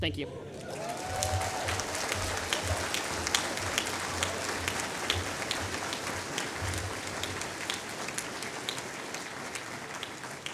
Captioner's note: applause